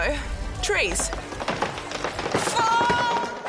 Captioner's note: tree branch breaks